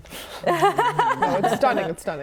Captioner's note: laughs